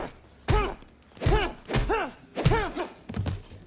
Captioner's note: fighters grunt